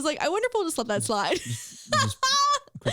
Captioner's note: laughs